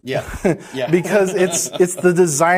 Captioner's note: laughs